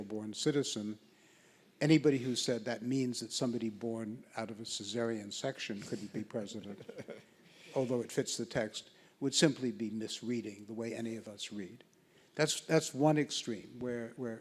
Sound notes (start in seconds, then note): 6.7 laughs